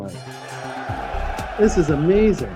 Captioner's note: bell ringing